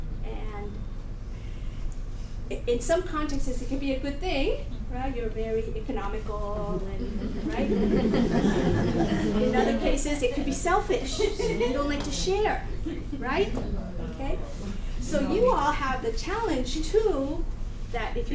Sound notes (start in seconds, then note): 7.0 audience Laughing